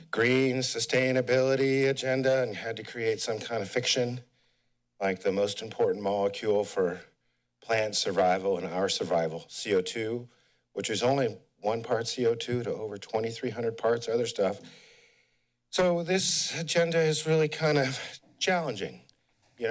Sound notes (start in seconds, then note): 14.6 breathes